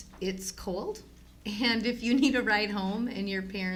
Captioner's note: laughs